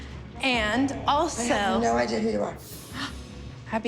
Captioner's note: gasps